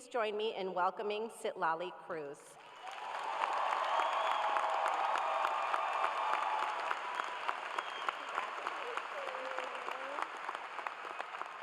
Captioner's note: cheers and applause